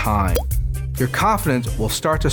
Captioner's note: splash into water